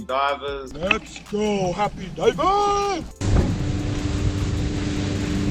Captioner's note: boat motor roars